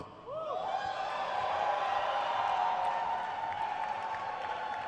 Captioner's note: crowd cheers